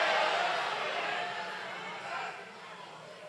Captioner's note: applause